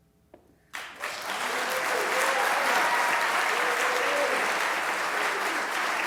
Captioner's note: applause